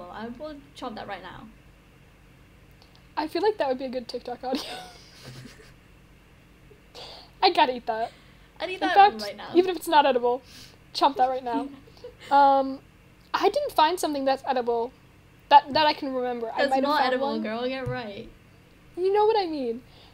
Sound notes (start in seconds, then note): 4.5 laughs at self